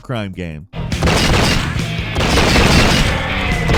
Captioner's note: gunshots